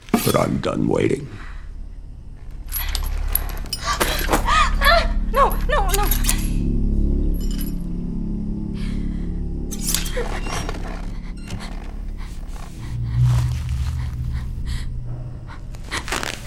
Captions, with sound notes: But I'm done waiting. Ah! No. No, no. [SCISSORS SNIP]